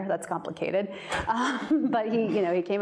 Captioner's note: audience laughs